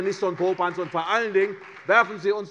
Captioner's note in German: Beifall CDU